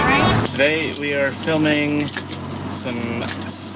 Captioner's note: paper crinkling